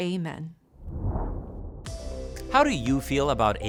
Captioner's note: graphic whooshing